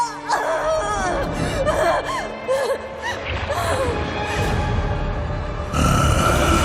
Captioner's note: Neyrelle screaming